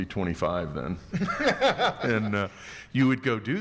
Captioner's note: laughing